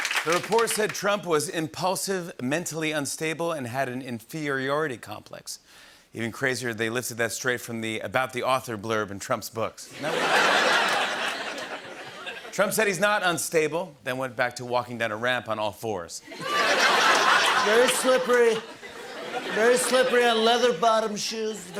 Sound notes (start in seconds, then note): 9.9 laughter; 16.3 laughter